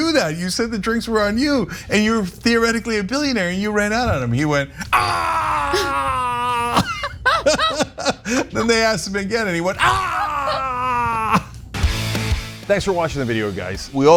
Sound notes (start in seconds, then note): 4.8 laugh